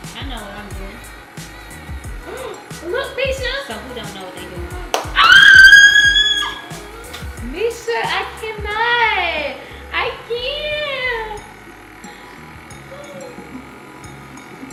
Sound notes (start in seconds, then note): 5.2 loudly squealing; 11.9 bubbly music